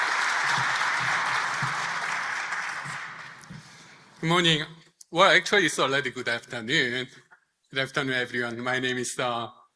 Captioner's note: applause